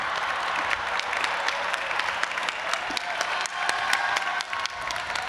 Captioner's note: audience applauding and cheering